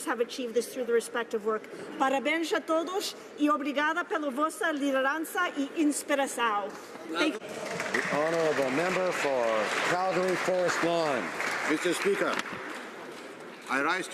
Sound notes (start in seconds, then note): 9.5 speaking alternate language